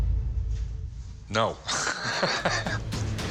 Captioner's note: chuckles